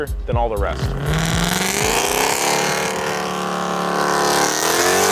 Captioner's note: engine revving